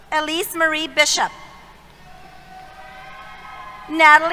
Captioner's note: cheers